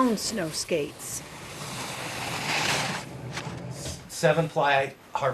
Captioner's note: snow crunching